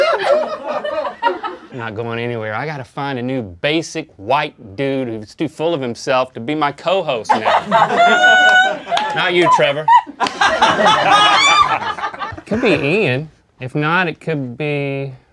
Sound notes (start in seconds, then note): 0.0 laughter; 7.3 laughter; 9.9 uproarious laughter